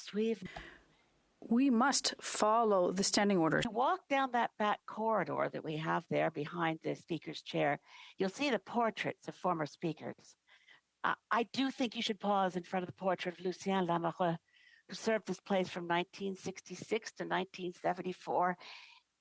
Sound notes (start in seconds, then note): 2.4 speaking French